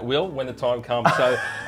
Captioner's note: laughs